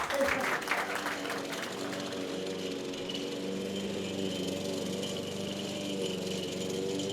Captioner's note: lawnmowing